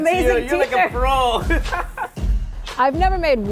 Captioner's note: laughs